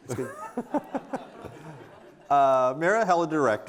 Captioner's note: audience laughing